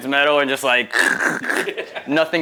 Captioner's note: cruching noises